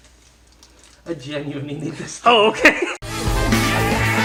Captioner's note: laughs; chuckling